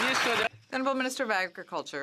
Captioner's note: some Applause